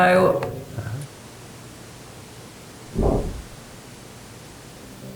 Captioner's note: replay of loud bang during break